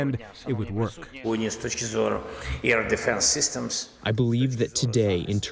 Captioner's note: through translator